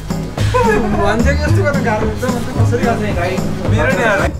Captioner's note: excited chatter